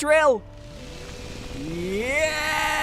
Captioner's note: drilling sound